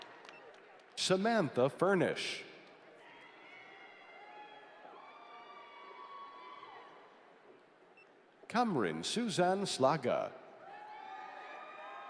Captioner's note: applause